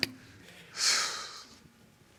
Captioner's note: exhales